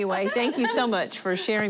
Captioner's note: laughter